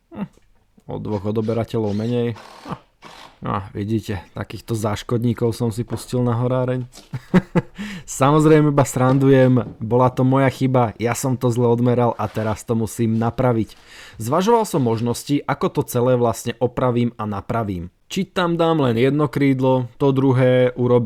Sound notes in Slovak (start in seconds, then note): 7.0 smiech